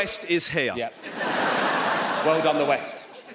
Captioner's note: audience laughs